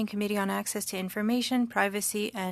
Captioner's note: speaking French